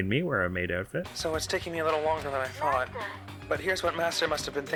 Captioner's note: as Alter Ego